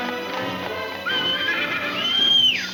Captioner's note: Jim whistling